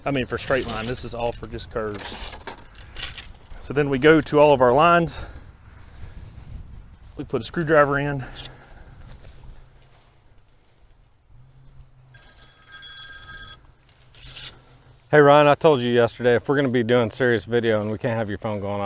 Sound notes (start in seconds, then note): 12.1 phone rings